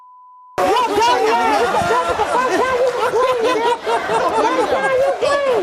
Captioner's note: audience jeering